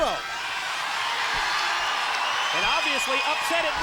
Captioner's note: crowd cheers